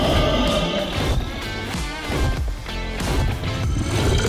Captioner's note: roar